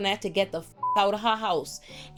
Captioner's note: beep